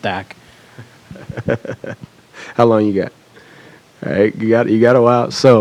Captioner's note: laughs